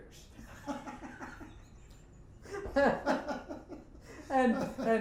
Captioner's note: both laughing